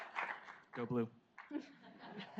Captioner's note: audience laughs